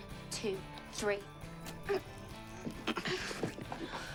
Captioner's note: both groan